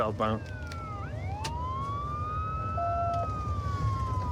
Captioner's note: sirens wailing